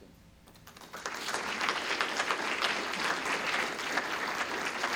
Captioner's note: applause